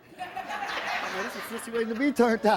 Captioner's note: audience laughs